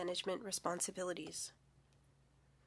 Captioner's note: speaking French